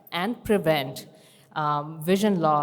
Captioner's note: none